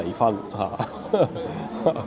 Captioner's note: laughs